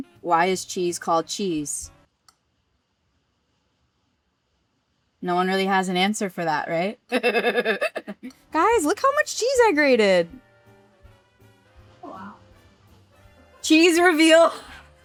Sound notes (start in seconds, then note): 7.0 laughs